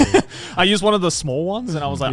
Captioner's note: laughing